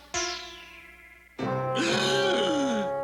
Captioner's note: gasps